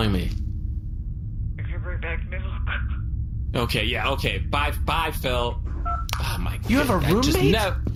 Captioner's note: irritated